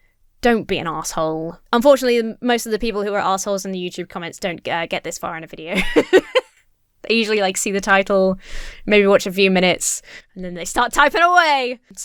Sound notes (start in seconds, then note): 5.7 laughs